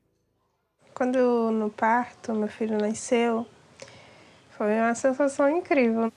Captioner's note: speaks in foreign language